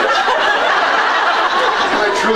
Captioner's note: laughs